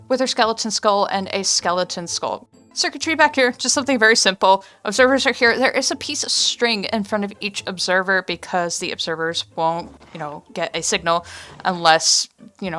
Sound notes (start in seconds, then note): none